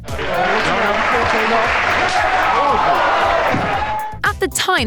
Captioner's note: appluase and slap